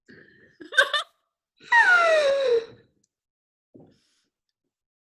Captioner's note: laughs